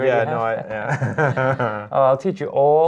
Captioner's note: laughs